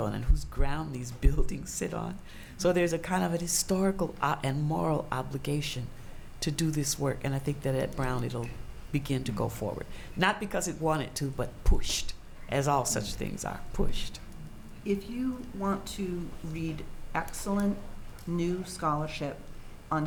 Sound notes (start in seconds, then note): none